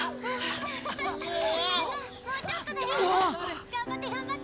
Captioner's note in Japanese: 泣き声